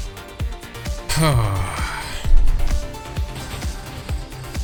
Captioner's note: sigh